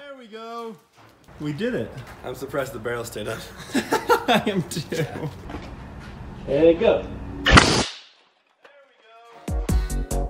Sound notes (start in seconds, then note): 3.3 laughs; 7.4 shoots air cannon